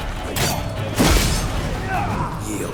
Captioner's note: thunderous boom; loud crackle